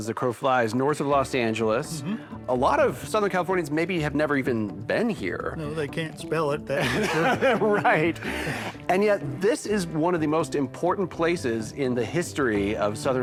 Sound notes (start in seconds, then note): 6.8 laughs